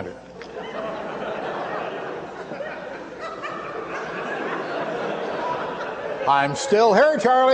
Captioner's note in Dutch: gelach